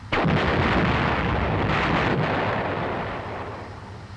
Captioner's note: gun booming; shell exploding